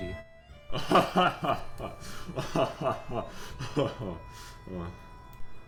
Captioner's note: hearty laughter